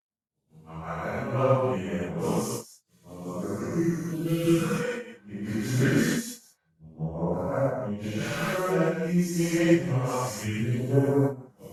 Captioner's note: ominous, distorted voice